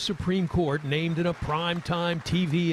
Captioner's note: applause